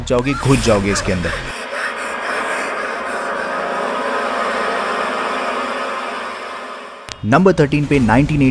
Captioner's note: gasping